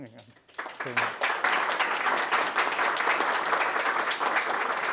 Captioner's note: applause